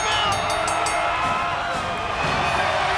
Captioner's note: bell ringing; crowd cheering